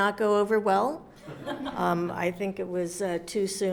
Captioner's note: audience laughs